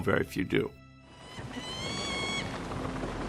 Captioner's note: blRD SQUAWKlNG